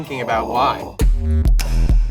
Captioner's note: heavy bass beat; growls